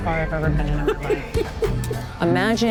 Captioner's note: laughs